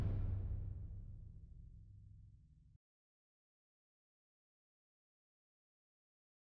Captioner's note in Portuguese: sem áudio